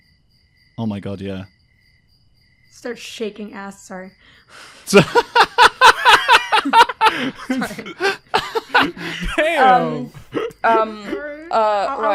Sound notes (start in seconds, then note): 4.8 laughter